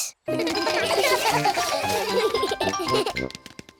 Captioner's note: all giggle